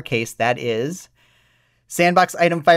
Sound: deep breath

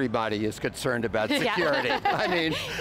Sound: laughter

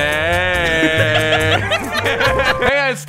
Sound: laughing

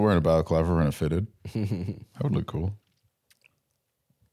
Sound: chuckling

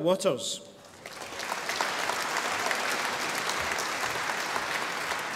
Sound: audience applauding

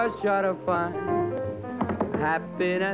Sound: tapping

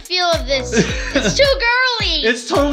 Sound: laughter

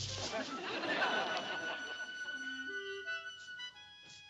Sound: audience laughs; intense music

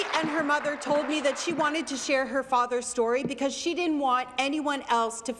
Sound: applause

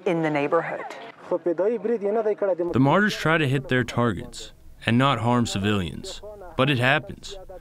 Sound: through translator

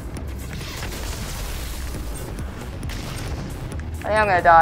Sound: shot exploding; beeping

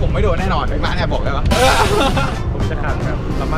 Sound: laughs

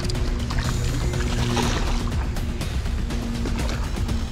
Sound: water splashing

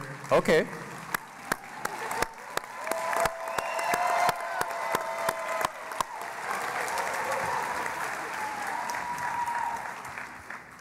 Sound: cheering and Applause

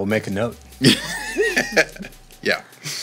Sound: laughing

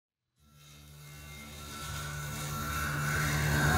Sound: saw whirring

